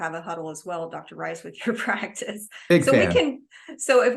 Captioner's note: laughs